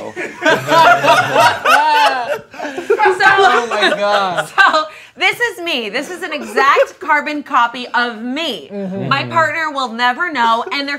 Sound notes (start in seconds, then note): 0.0 all laughing; 4.6 laughs